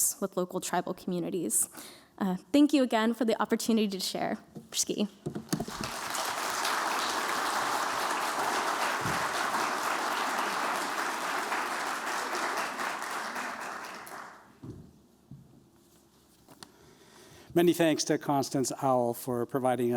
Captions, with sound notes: with local tribal communities. Thank you again, for the opportunity to share. [applause] - Many thanks to Constance Owl for providing us